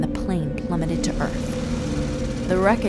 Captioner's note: plane rumbles